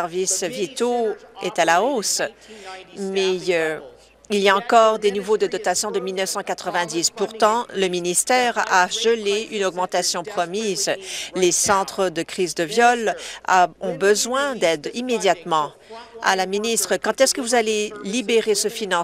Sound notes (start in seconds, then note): none